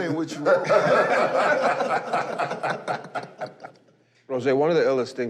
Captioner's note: laughter